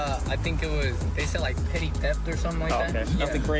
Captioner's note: laughs